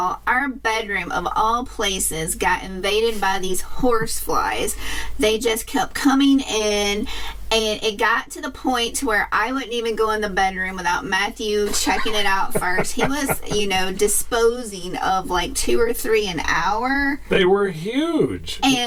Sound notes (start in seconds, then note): 11.6 laughs